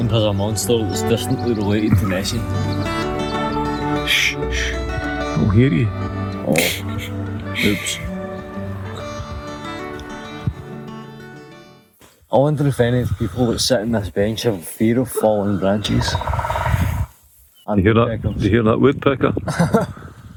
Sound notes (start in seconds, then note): 6.5 laughter; 15.4 woodpecker; 19.4 laughter